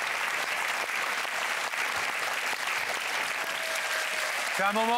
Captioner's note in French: Applaudissements